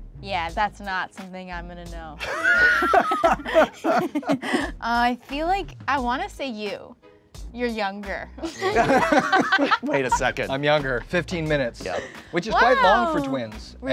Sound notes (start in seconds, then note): 2.2 all laughing; 8.4 all laughing